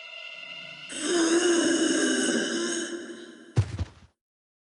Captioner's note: loud moan